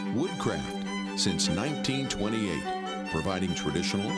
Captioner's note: voiceover